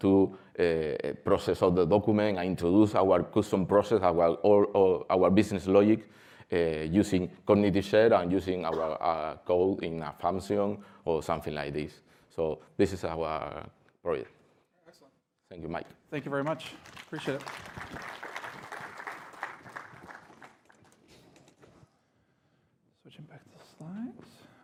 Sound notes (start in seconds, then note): 11.2 applause